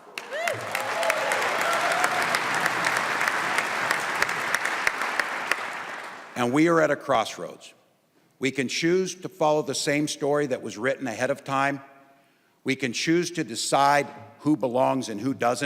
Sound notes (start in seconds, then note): 5.4 applause